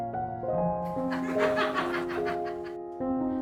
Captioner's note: laughter